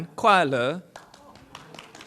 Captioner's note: foreign language